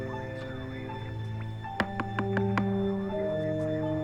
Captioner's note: knocks